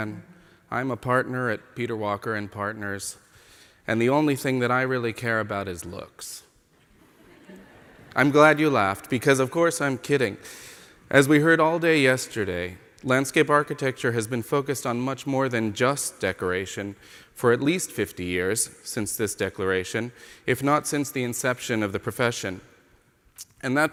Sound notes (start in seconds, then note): 7.0 laughter from the audience